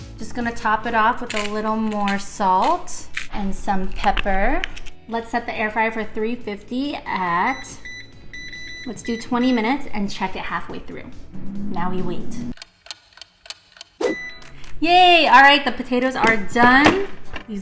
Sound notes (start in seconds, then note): 12.5 clock ticking; 12.6 clock beeps